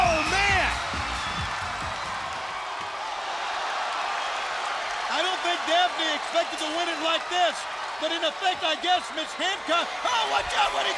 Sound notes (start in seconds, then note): 0.9 crowd cheering